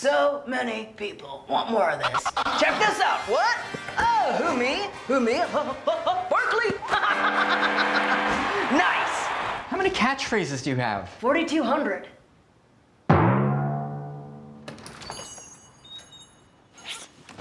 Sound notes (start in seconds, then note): 5.6 laughing; 13.1 boiiiinggg; 14.7 door jingle